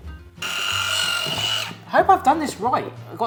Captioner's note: Headwhisk whirs and screeches